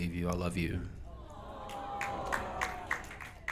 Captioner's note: audience Applauding